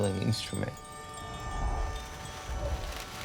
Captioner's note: wind whooshing